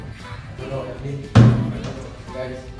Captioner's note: chairs hitting the ground